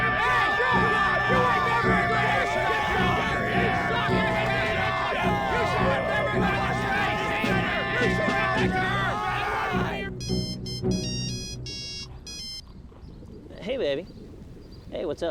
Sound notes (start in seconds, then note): 10.6 phone ringing